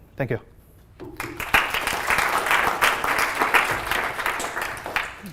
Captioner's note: applause